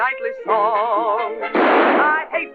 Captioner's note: gunshot